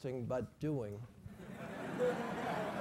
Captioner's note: laugh